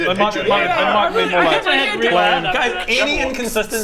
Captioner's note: tsk